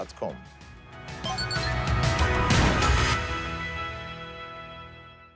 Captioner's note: uplifting music continues; logo beeping